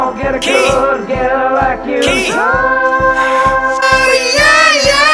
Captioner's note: sighs